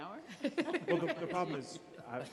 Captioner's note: laughing